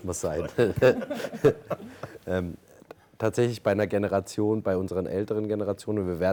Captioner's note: laughs